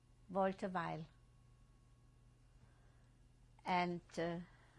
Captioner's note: pauses for 3 seconds